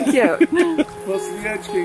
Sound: laughs

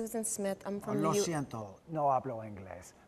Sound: foreign Language Spoken

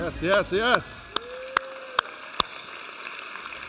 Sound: applauding

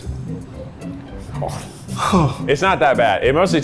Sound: scoffs

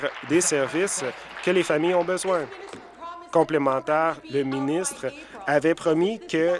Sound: some Applause

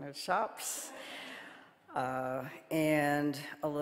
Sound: audience laughing

